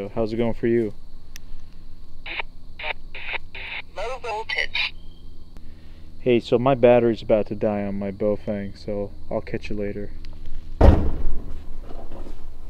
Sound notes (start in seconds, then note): 4.2 machine Voice